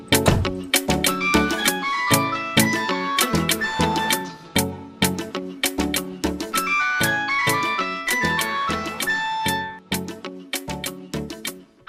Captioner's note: phone ringing